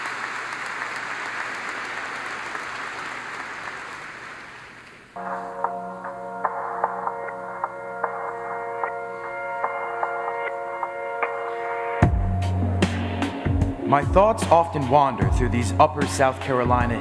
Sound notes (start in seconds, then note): 4.3 applause